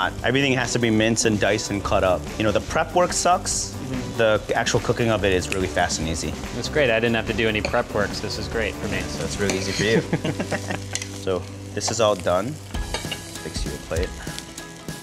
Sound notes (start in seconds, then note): 9.8 laughs